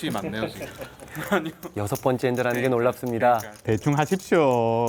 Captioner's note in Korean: 웃음